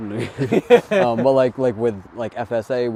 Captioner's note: chuckling